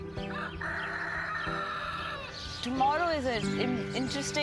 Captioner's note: 啼鸣; crowing